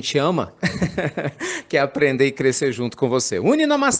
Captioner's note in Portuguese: risadas